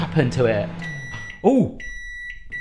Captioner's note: microwave beeps